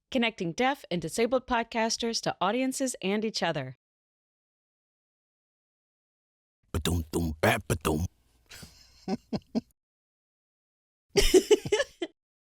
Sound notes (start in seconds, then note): 6.8 laughs; 11.2 happy giggle